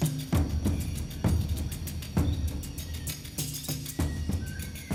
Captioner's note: birds chirping